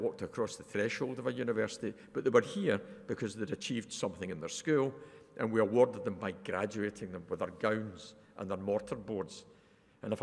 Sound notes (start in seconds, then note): none